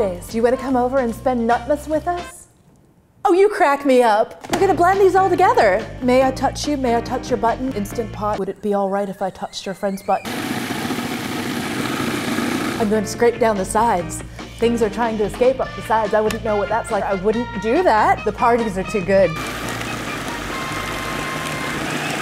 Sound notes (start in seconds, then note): 10.4 electronic whirring and grinding; 19.4 processor grinding